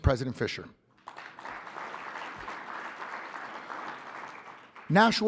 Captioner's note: audience applauding